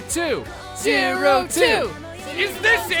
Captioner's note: Everyone chanting Zero-Two